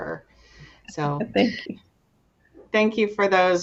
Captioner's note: giggles